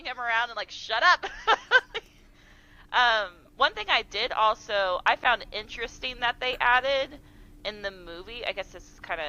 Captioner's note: laughing